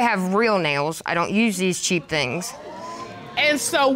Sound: audience exclaims

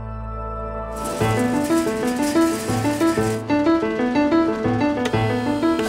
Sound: gentle exciting music; conveyor belt clattering; machinery whirring

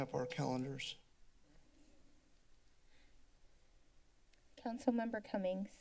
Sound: silence

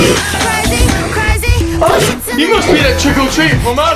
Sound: werewolf snarling

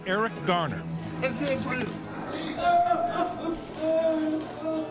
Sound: woman sobbing

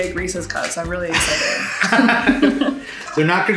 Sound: laughing

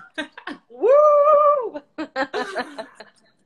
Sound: laughs

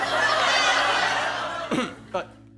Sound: coughs

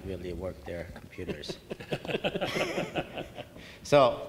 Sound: laughing

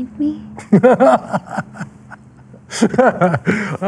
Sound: laughing

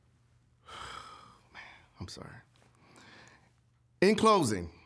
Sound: sighing

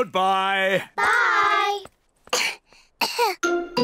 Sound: both cough

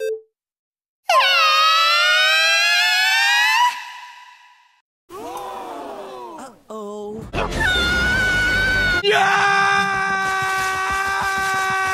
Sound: everyone Screams

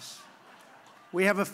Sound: laughter

